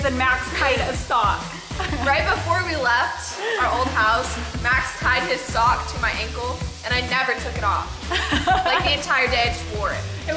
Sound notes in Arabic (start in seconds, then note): 1.5 يضحك; 8.0 أمي تضحك